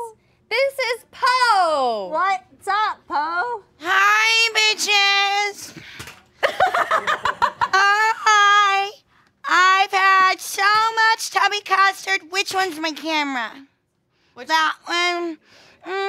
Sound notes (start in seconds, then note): 6.4 laughing